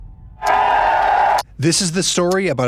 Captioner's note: crowd cheering